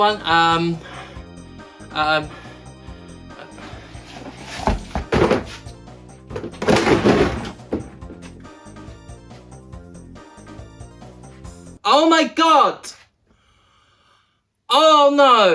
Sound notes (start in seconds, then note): 3.1 sound of tyre dropping to the floor